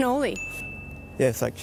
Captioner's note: bell chiming